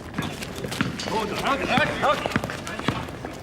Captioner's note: men call out